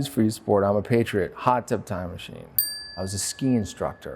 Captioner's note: bell dings